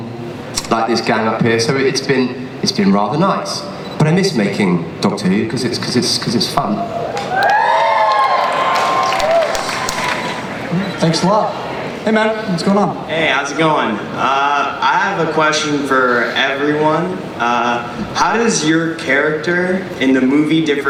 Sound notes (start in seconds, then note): 6.7 audience cheers; 13.2 voiceover